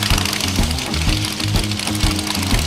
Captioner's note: applause